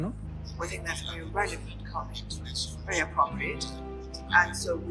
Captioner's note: interpreter in English